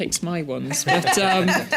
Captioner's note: laughter